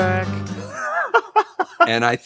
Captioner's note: laughing